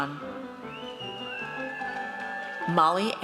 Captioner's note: audience cheers